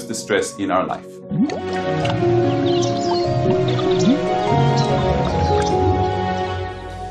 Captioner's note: bright music; water bubbling